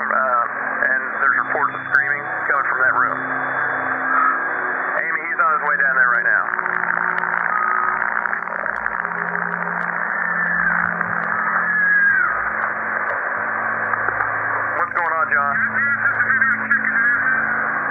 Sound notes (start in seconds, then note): 9.3 SCREAMS from Room #209